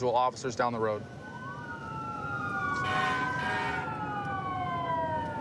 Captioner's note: emt sirens blaring